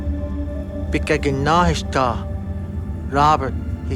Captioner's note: somber music; speaking foreign language